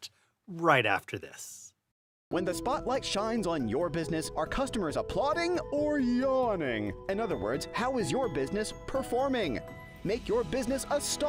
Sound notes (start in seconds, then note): 2.3 voiceover